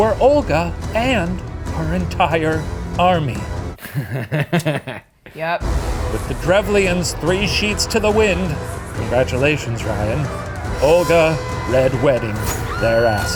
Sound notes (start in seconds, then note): 3.8 laughing